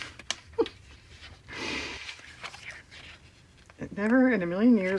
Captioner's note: laughs